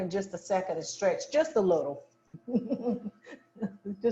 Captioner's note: chuckles